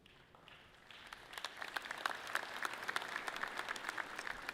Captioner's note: audience clapping loudly